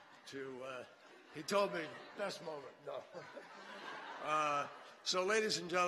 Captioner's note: laughter; laughter